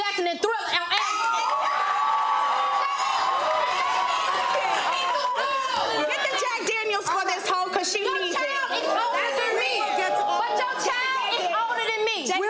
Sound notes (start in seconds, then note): 1.2 audience applauds; 9.2 girls arguing